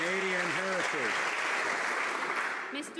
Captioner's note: some Applause